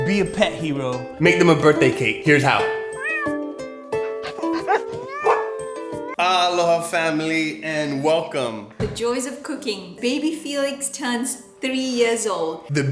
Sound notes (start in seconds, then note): 2.6 cat meowing; 3.8 dog barking